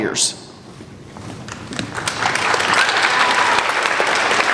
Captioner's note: applauding